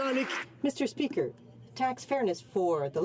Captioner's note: some Applause